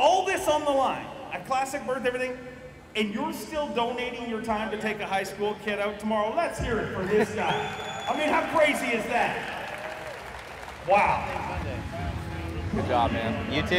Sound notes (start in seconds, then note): 9.3 crowd cheering